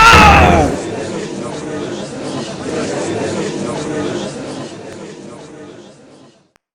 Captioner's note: gallery chattering